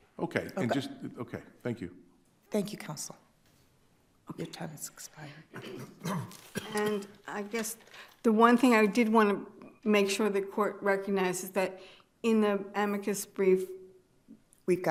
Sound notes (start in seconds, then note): 5.5 attendee coughing; 5.5 attendee clears throat